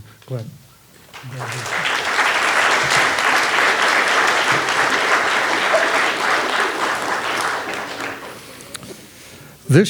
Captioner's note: audience clapping